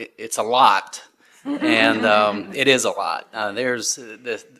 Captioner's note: attendees laughing